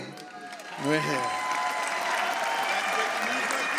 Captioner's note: audience applauds